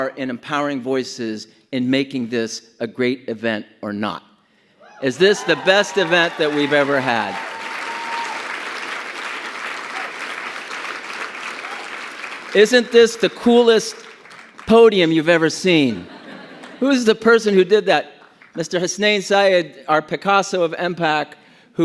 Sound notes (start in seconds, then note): 5.0 audience cheers; 7.4 audience applauds; 15.9 audience laughs